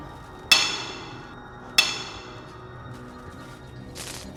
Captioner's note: metal clanking